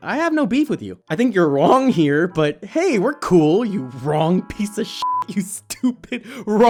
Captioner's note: laughter